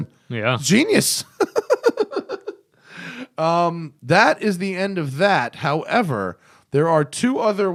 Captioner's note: laughter